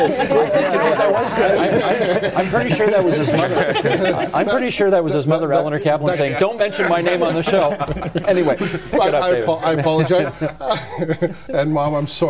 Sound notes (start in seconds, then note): 3.1 mixed voices; 4.1 laughter